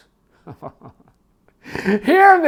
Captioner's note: man laughing